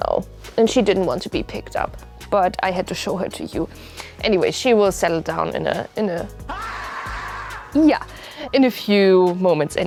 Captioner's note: ahhhhhhh!!!